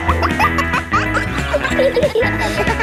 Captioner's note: kids laughing; pop music playing